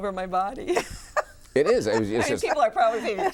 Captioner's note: laughs